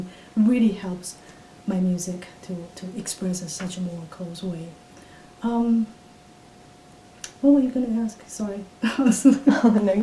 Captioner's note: laughs